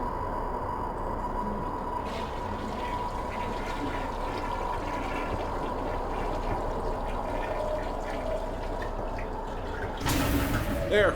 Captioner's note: toilet flushing